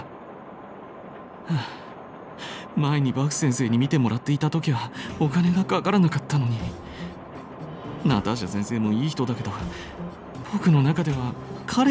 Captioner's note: sigh